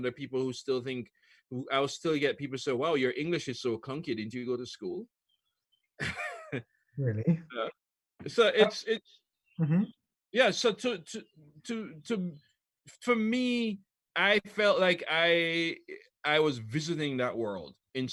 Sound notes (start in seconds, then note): 6.0 laughs